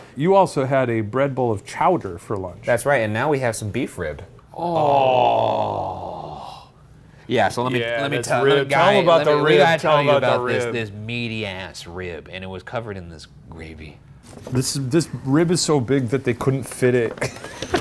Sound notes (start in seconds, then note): 4.5 Shane and Ryan sighing